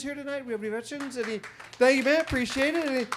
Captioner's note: audience members applaud